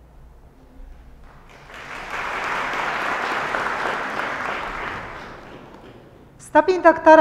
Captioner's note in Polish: oklaski